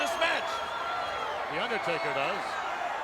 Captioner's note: audience cheering